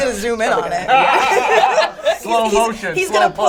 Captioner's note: all laugh